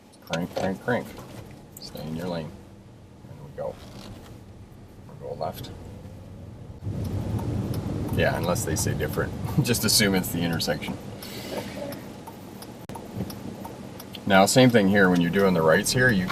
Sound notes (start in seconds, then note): 5.8 car signal clicking; 9.4 laughs